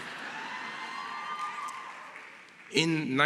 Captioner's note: laughter